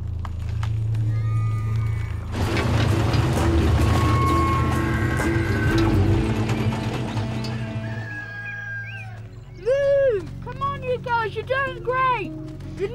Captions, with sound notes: (engine rumbling) (machinery creaking) (rooster crows) - Move! Come on you guys, you're doing great.